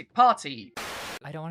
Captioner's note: static